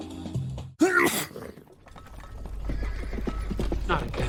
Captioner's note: sneeze; hooves approaching